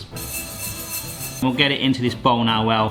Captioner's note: seeds rattling in pan